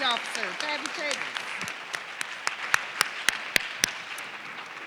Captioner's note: audience clapping